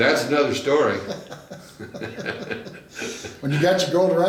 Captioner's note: laughing